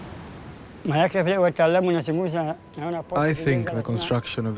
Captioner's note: speaking in foreign language